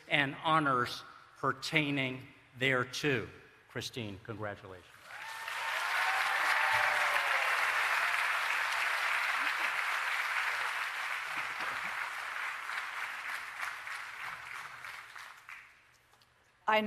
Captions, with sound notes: and honors pertaining thereto. Christine, congratulations. [ Applause and Cheering ]